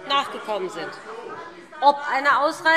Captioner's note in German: Zurufe DIE LINKE